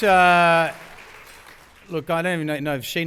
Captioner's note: applause